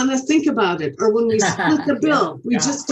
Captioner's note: laughs